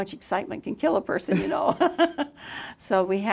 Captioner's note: laughs